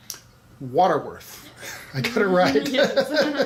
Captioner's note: laughs